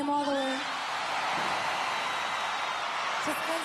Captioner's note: crowd cheering